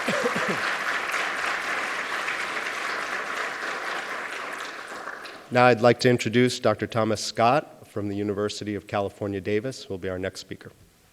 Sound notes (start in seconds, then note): 0.0 applause